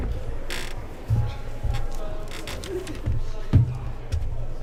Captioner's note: crowd murmuring